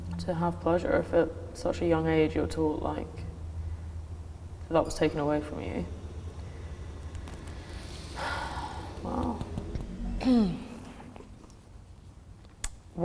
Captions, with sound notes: to have pleasure if at such a young age you're told, that was taken away from you. (sighs) Wow.